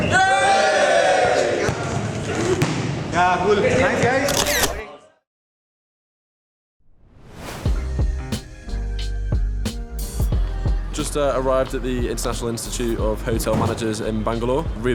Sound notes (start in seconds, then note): 0.0 cheers; 4.3 camera shutter